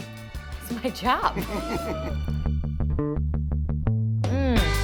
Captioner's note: laughter